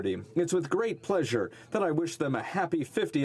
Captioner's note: speaking French